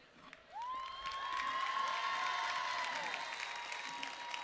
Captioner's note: cheering